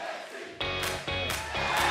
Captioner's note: fans chanting